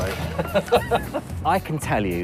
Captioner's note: laughing